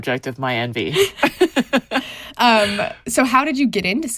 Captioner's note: both chuckling